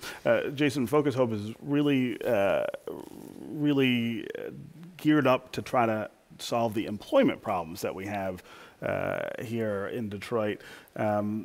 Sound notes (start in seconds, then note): none